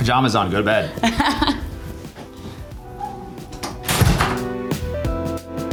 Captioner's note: Kate laughing; upbeat music